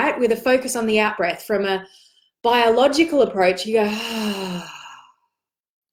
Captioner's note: exhales